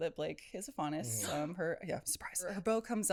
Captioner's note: gasp